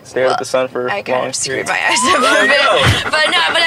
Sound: giggling

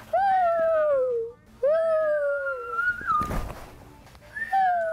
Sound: whistling

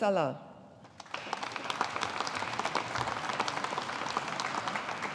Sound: audience applauding

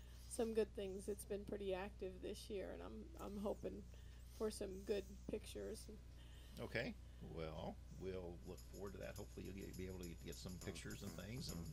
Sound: podcast playing

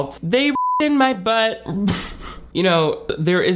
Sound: beep; laughs

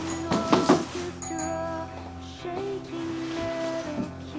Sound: doorbell ringing

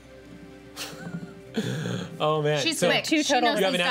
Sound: laughs

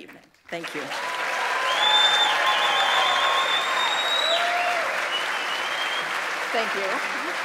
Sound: audience applauds and cheers; audience members whistle

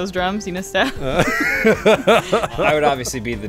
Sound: laughter

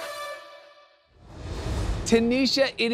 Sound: graphics whoosh

